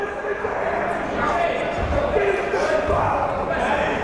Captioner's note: yelling